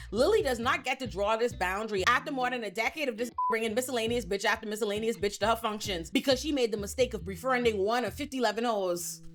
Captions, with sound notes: Lily does not get to draw this boundary after more than a decade of this (beep) bringing miscellaneous bitch after miscellaneous bitch to her functions, because she made the mistake of referring to one of 51 hoes.